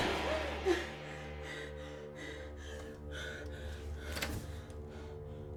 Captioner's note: winded breathing